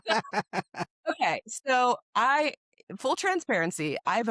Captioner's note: both Laugh